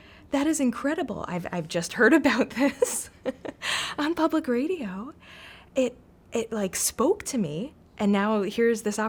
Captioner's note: laughs